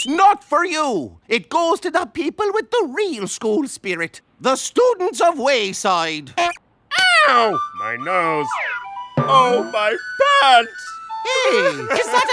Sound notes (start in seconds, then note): 9.4 sobbing